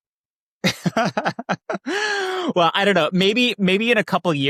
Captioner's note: laughs